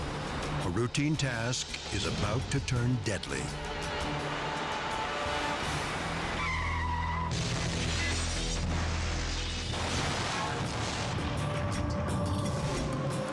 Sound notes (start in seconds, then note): 3.5 dramatic music; 6.4 tires screeching; 7.3 cars crashing; 9.6 pump exploding; 10.9 dramatic music continues